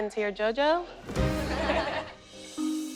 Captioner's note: laughter